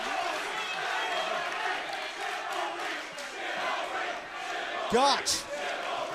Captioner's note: crowd cheering